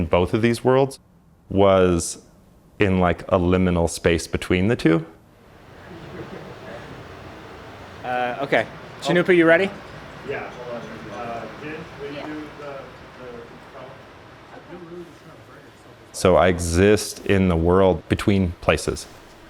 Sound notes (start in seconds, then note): 10.7 indistinct chatter